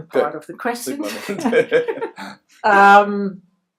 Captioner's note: laughs